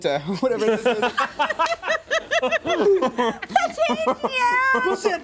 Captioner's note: everyone laughs